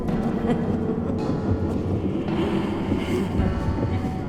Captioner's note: ghost laughing